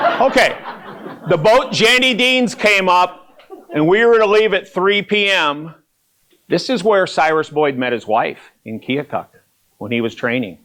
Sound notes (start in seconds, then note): 0.0 laughter